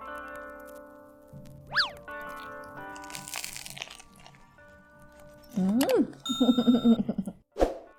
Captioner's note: bread crunching; chuckles